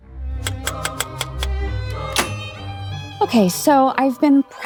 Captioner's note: typewriter clicks; playful music